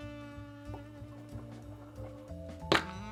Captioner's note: whisking